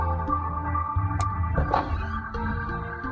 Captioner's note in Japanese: 扉を開く音：ゴッ キイィ･･･